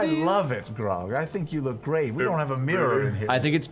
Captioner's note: stutters